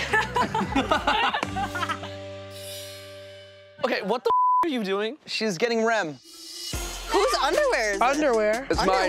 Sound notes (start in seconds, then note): 0.0 all laughing; 4.2 beep